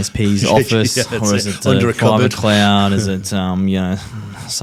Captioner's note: chuckling